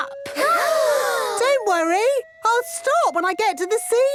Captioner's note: children gasp